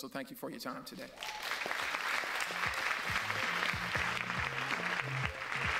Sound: audience applauds

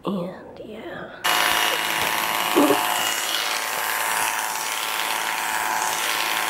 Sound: sound of the clippers

